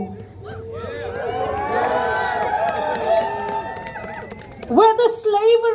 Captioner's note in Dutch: Gejuich